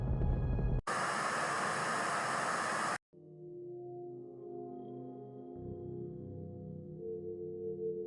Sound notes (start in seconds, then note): 0.9 static buzzing; 3.9 gentle ethereal music